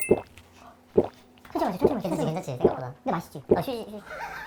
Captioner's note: gulp gulp